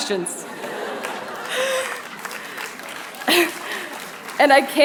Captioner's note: applause